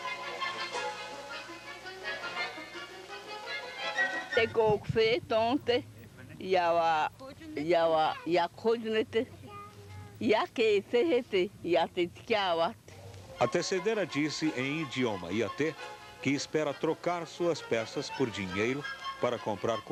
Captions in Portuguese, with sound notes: (ìndia falando em idioma indígena) A tecedeira disse em idioma indígena, que espera trocar suas peças por dinheiro para comprar